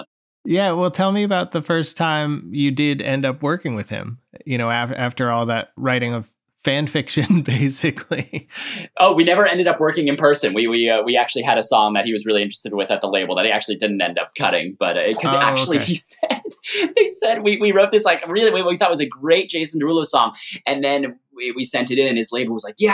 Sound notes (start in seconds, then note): 7.9 laughter; 15.2 laughter